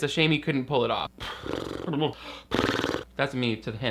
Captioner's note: drums lips